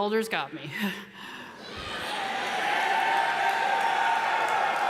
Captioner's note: audience cheers